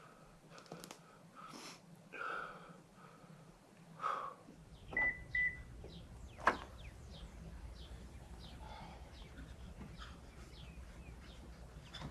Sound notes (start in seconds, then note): 4.1 sighs; 4.9 alarm beeps